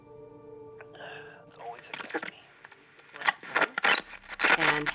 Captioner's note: static